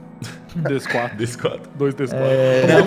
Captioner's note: laughter